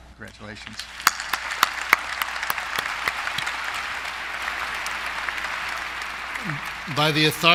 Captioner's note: applause